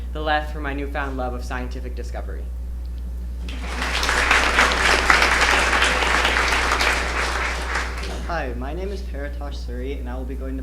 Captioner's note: applause